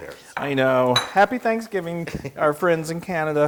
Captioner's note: laugh